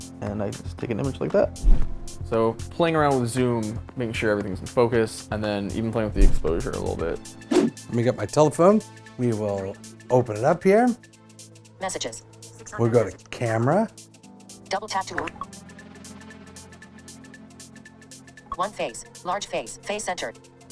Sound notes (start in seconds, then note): 7.5 whoosh; 12.0 iPhone VoiceOver; 14.7 iPhone VoiceOver